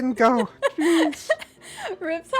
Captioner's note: laughs